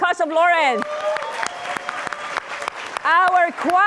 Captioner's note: applause